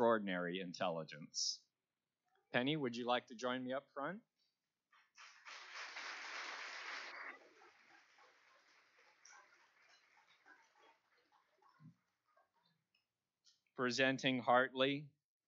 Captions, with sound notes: Because of her extraordinary intelligence. Penni, would you like to join me up front? (Applause).